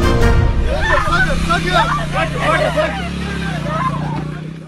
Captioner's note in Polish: Krzyki porywanych zakładników